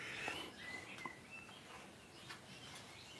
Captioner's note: birdsong